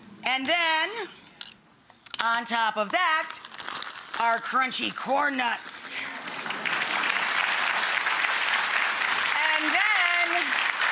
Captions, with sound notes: and then on top of that our crunchy corn nuts. (applause) And then our avocado,